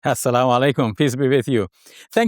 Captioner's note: speaks in Arabic